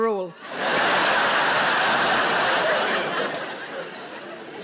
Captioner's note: audience laughing